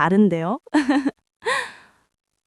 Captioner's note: chuckles